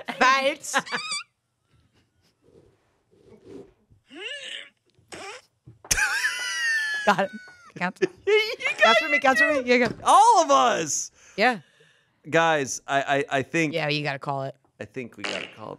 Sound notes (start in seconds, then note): 6.1 laughs